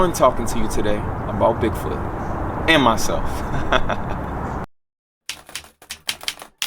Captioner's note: laughs; keyboard keys clicking